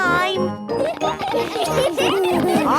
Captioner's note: laughter